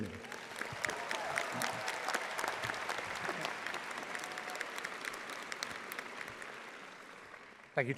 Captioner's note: audience applauding